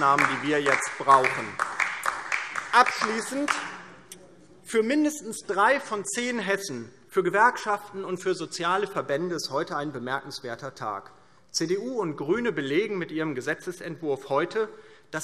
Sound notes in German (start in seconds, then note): 2.6 Beifall DIE LINKE